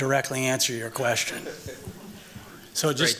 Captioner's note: chuckles